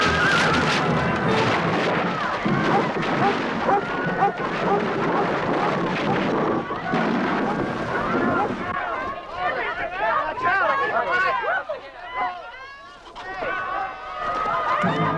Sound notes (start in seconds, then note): 0.0 beams snapping; 4.6 Beast barking; 9.8 townsfolk clamoring